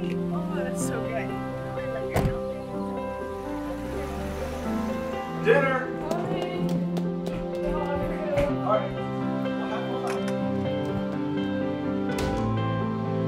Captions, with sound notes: (Door closes) - Dinner - Coming